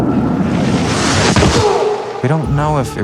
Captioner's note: Joe thudding